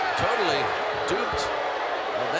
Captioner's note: crowd boos